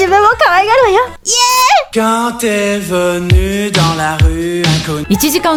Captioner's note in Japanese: 音割れ。